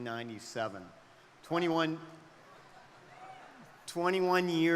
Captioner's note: crowd cheering